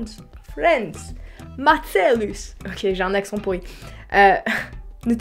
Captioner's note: bad Italian accent